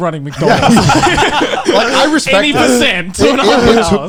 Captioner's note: laughing